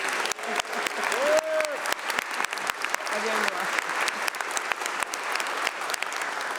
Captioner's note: applause